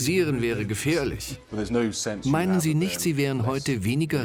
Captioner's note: voiceover